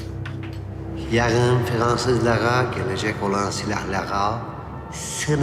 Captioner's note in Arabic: تعليق صوتي بيير